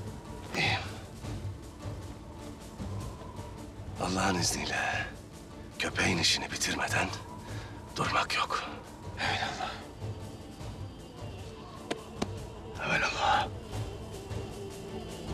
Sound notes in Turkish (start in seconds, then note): 11.9 El vurma sesleri; 13.8 Müzik - Gerilim